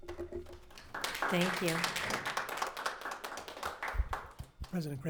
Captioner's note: audience applauds